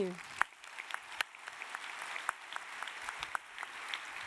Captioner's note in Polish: oklaski